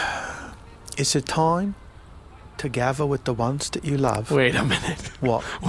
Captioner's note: sighs